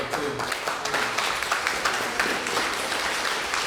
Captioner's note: applause